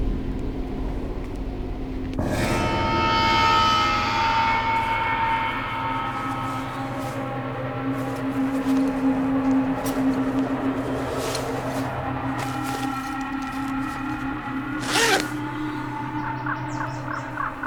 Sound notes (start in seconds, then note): 2.7 dramatic music; 8.3 fabric rustling; 14.9 zipper buzzes